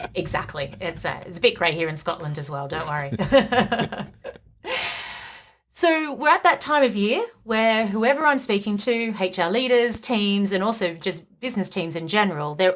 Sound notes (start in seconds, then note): 2.8 both laugh